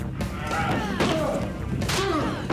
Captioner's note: groans; slap; groans